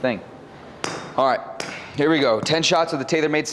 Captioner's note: club-head tapping